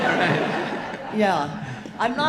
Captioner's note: audience laughing